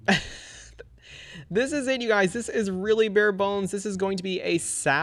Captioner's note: laughs